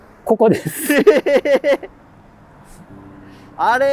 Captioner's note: laughing